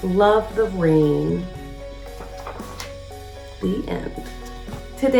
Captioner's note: uplifting instrumental music; pages shuffles; uplifting instrumental music